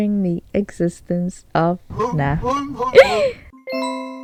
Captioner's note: cries